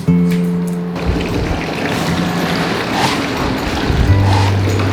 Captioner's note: cow sniffs